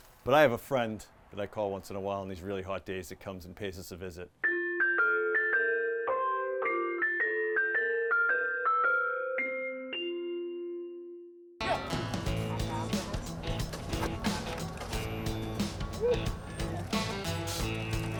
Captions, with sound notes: But I have a friend that I call once in a while, on these really hot days that comes and pays us a visit. (bells chiming) (upbeat music)